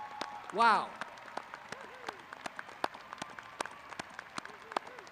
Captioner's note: applauding